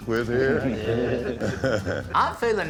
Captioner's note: laughter